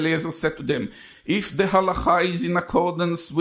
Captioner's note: speaks in foreign language